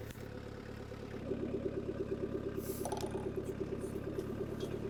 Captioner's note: engine rumbling